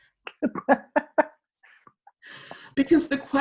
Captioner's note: laughing